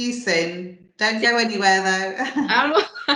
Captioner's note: laughs